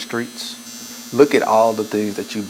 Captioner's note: buzzing